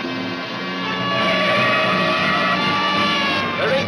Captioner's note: tires screech